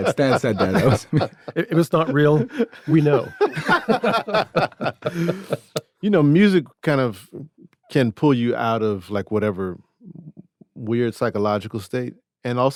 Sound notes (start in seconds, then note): 4.2 everyone laughs